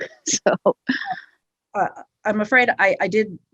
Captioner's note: woman laughs